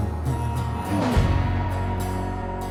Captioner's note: cars accelerating